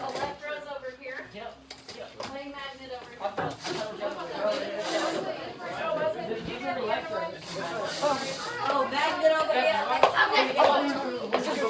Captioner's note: students moving and chatting